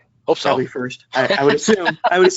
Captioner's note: laughter